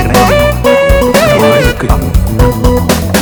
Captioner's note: mixed chattering